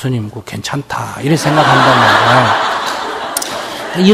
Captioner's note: audience Laughter